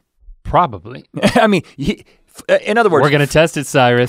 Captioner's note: chuckles